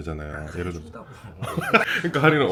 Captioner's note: laughs